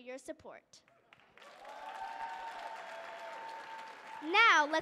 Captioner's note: audience clapping and cheering